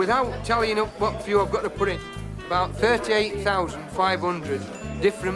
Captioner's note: ding